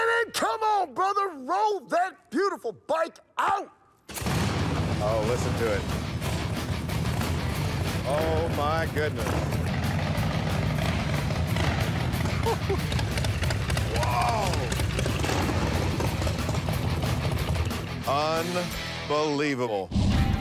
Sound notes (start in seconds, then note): 3.5 engine sounds; 12.2 laughs